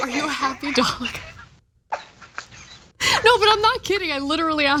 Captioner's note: laugh